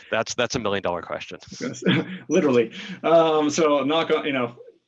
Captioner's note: laughs